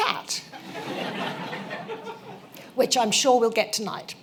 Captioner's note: laughter